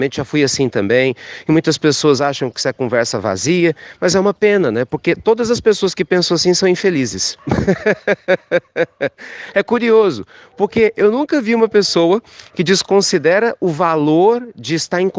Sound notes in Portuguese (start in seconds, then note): 7.3 risos